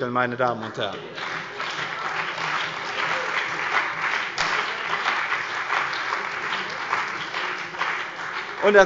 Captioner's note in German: Beifall bei der CDU und dem BÜNDNIS 90/DIE GRÜNEN